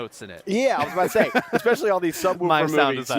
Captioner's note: laughing